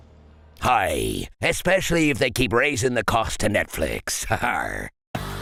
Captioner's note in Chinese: 海賊口音